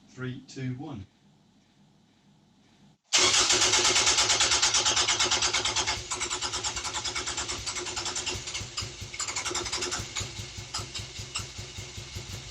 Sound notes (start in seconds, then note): 3.1 engine cranking; 6.0 ENGINE CRANKING and FIRST MISFIRES